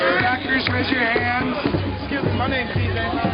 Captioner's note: voiceover